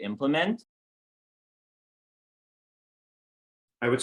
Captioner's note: silence